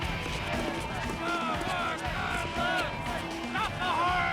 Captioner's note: fans shouting